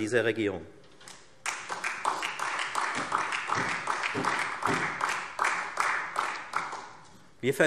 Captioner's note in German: Allgemeiner Beifall